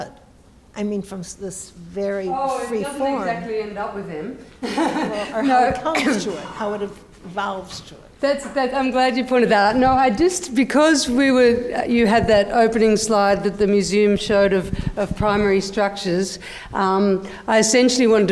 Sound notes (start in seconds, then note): 4.6 laughs